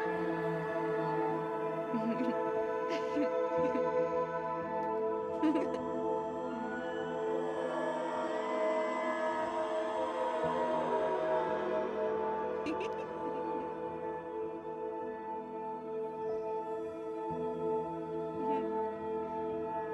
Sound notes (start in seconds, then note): 2.1 Brigit giggling; 9.5 dark eerie music; 12.6 Brigit giggles